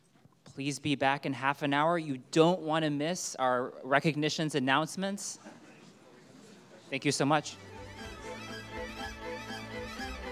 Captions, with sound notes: - Please be back in half an hour. You don't wanna miss our recognitions announcements. (audience faintly chatting) Thank you so much. (upbeat music)